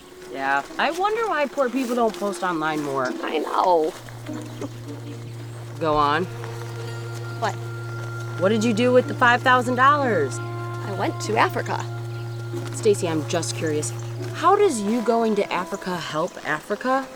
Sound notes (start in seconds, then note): 4.0 chuckles